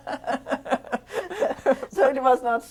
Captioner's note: laughter